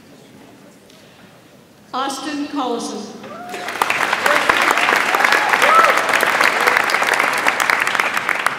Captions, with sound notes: Austin Collison. (audience applauds)